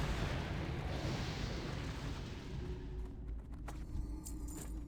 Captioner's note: whooshing